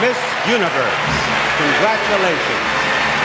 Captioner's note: crowd cheering and applauding